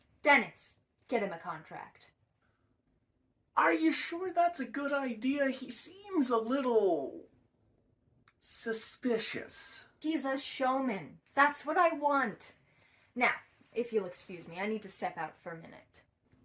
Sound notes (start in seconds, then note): none